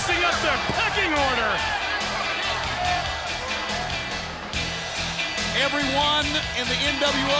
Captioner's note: crowd chatter